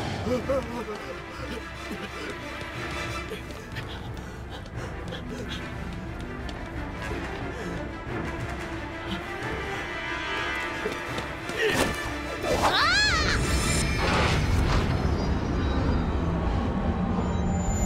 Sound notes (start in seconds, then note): 3.3 pant